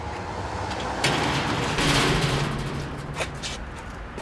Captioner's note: door banging